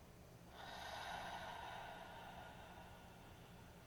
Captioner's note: sighing